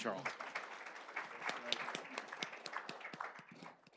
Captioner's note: applause